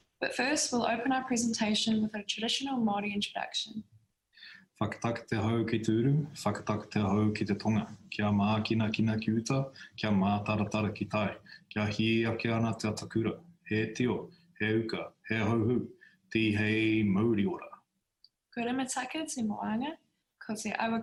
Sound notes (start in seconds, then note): 6.4 speaking in Foreign Language